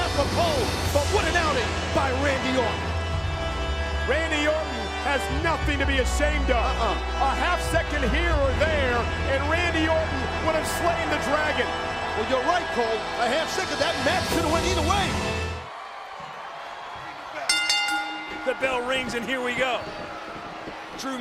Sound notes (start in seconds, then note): 15.6 crowd cheering; 17.5 bell dinging